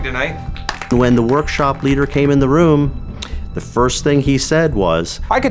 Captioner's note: clapping